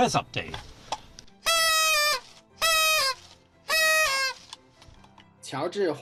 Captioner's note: party horn tooting